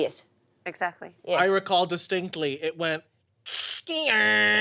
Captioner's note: imitates fax machine